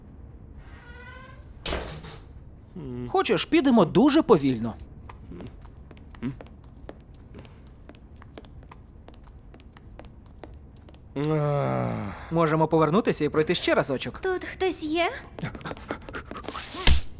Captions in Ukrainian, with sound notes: Хочеш підемо дуже повільно? (розлючено зітхає) Можемо повернутися і знайти ще разочок? Тут хтось є?